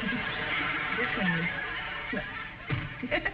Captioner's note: giggles; audience laughing; giggles